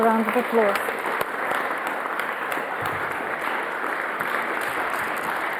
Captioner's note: audience clapping